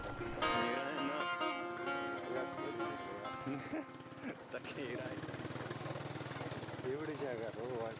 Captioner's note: chattering, music and the sound of the motorbikes